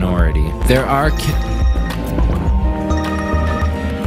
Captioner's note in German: klingeln